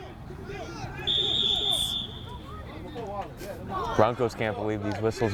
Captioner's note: whistle